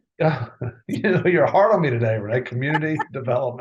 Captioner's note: laughs